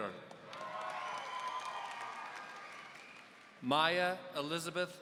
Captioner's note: audience cheering